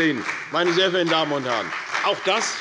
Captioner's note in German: Beifall bei der CDU und dem BÜNDNIS 90/DIE GRÜNEN